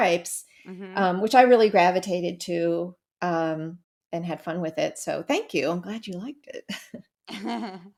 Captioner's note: laugh